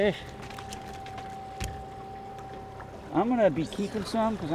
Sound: fish thrashing

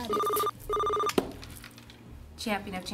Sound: phone rings

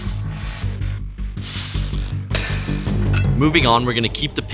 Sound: heavy breathing

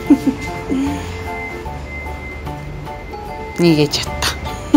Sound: laughs

